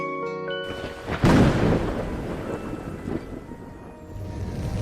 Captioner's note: it's raining